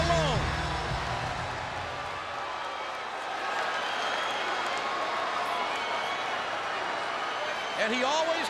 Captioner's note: applause